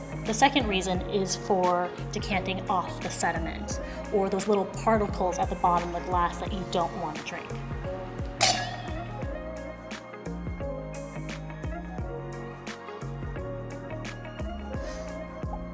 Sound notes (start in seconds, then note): 8.4 glasses cling; 10.6 calm music